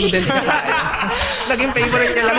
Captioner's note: laughs